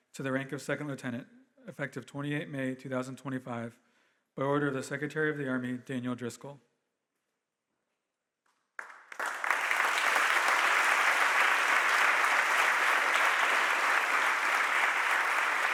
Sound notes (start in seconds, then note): 8.8 audience applauding